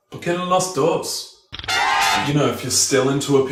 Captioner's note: mexican cheering